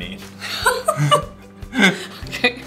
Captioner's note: laughing